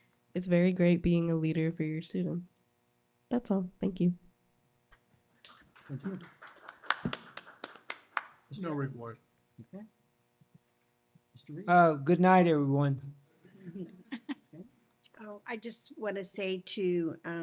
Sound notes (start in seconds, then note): 5.4 applause